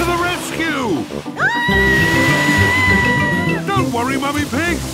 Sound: screaming

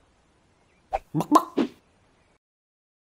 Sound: chicken cluck

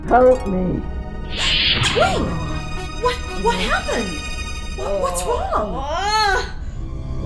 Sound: gasp; T'Ling howling in pain

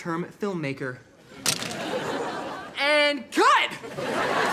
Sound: crashes

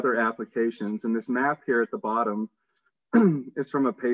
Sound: clears throat

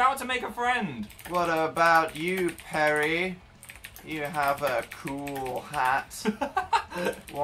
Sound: laughs

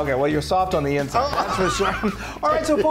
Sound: laughing

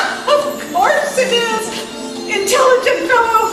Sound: laughs

